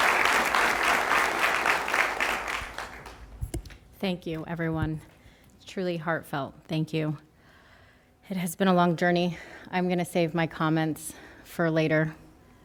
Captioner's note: applause